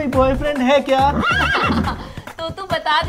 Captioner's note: Laughs